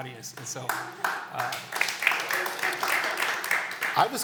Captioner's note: applause